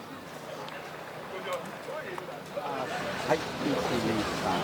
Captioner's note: people speaking in Japanese